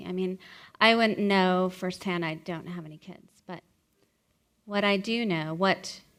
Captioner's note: none